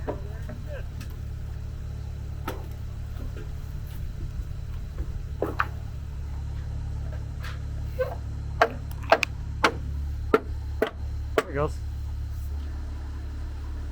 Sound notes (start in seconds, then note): 4.6 board plunks; 7.9 board squeaks; 9.6 hammer banging